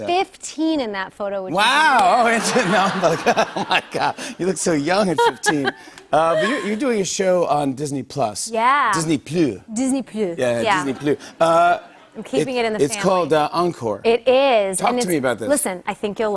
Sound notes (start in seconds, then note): 2.2 laughter; 5.5 French accent; 8.4 normal voice